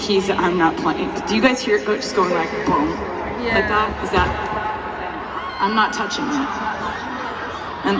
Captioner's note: bonk!